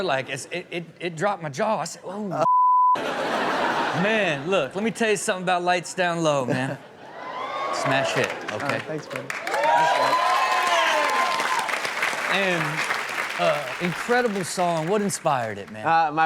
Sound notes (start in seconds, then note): 3.0 audience laughs; 6.9 audience cheers; 10.1 audience cheers